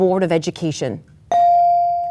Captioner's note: bell dings